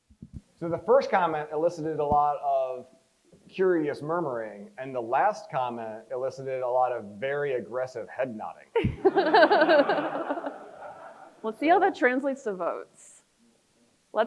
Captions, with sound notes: - So the first comment elicited a lot of curious murmuring, and the last comment elicited a lot of very aggressive head nodding. (crowd laughs) - We'll see how that translates to votes.